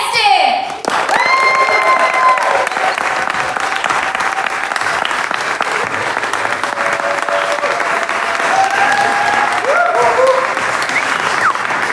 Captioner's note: cheers & applause